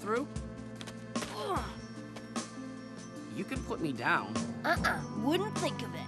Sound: groaning

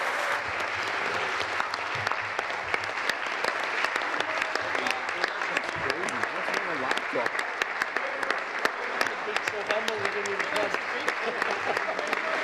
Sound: applause

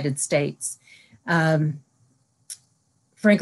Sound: silence

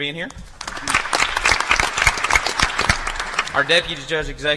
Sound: applause

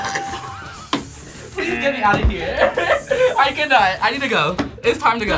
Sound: laughs

